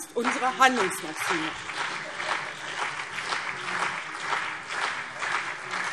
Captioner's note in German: Beifall CDU und BÜNDNIS 90/DIE GRÜNEN